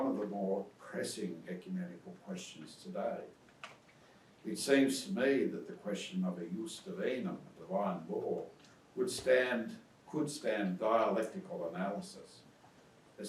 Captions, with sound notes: of the more pressing ecumenical questions today. It seems to me that the question of a (speaks in foreign language), divine law would stand, could stand dialectical analysis,